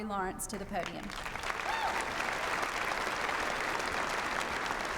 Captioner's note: applause